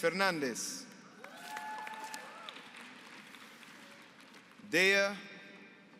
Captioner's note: applause